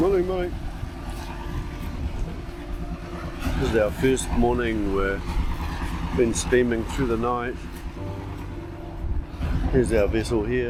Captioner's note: boat engine